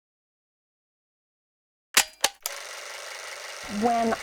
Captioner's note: film projector sound